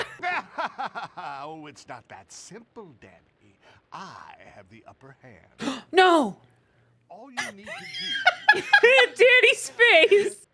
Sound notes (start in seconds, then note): 0.0 evil laughter; 6.1 gasps; 7.4 both laughing